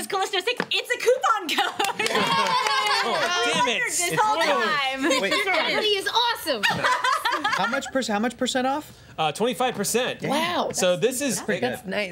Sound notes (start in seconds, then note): 1.3 laughing and cheering